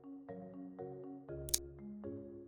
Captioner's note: click sound